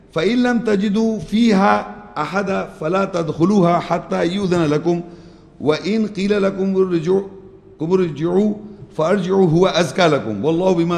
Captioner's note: Arabic